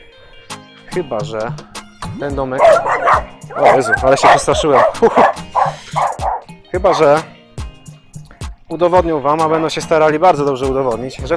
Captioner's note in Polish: aghrhrrrrr